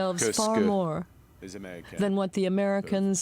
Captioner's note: speaking French